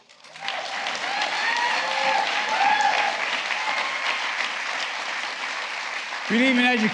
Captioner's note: applause